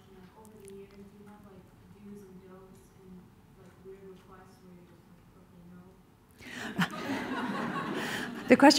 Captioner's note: laughter